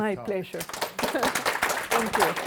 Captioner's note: audience applauding